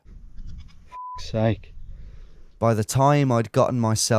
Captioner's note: beeps